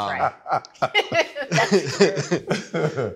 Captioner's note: laughs; he Laughs